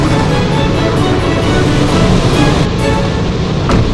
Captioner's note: whooshing